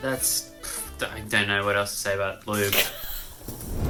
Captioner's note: stutters; laughing